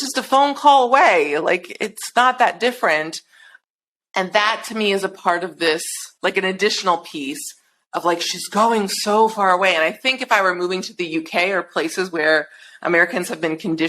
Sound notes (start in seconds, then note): none